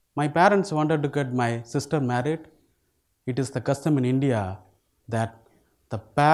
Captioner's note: none